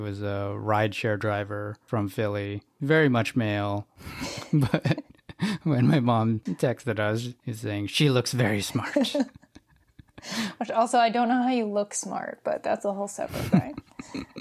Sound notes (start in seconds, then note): 4.0 both laugh; 8.8 laughs; 13.3 laughs